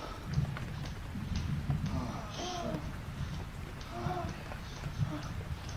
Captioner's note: heavy breathing